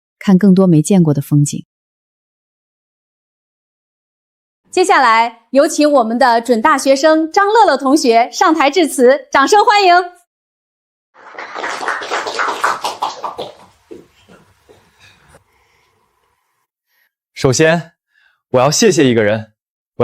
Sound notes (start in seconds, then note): 9.3 applause